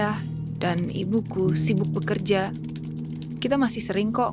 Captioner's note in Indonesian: Ketikan keyboard